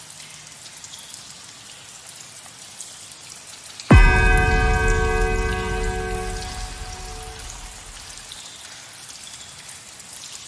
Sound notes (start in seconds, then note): 3.9 ninth bell